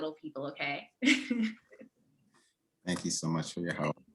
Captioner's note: giggling